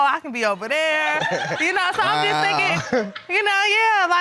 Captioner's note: audience laughing